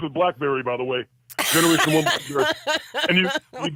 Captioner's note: laughs